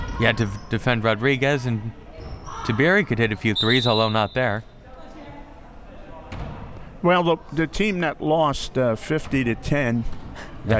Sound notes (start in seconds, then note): 3.5 whistle